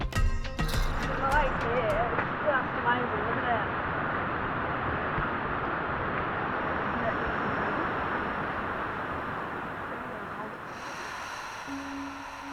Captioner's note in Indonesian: air terjun deras